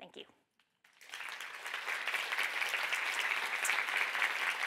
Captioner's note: audience clapping